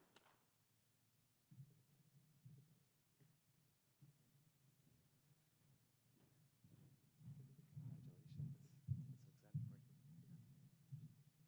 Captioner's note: applause